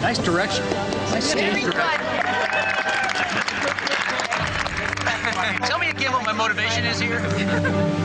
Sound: applause

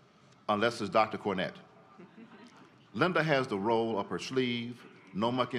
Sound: laughter

